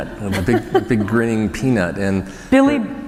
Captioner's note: laughter